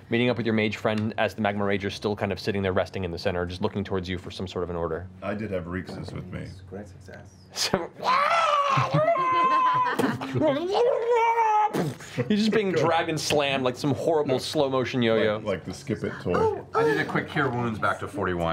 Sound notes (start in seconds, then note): 8.0 screeching; 8.1 impact